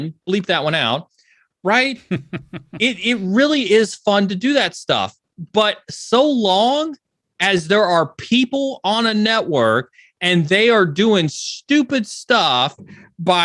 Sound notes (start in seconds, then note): 2.0 laughs